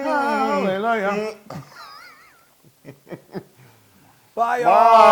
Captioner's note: laugh